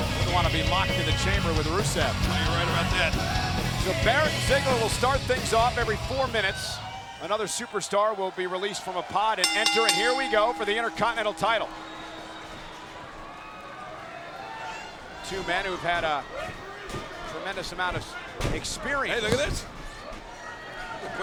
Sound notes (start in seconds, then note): 9.4 bell dinging